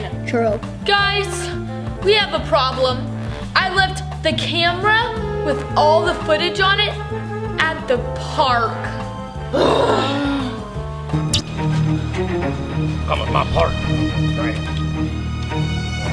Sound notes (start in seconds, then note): 9.3 groans loudly; 11.1 dramatic music